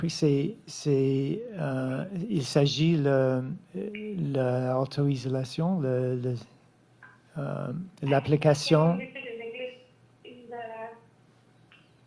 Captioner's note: speaking French